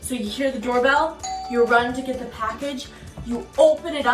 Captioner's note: doorbell rings